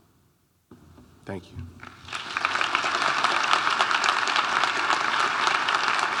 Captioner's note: audience applauding